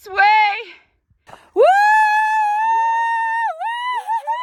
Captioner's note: cheers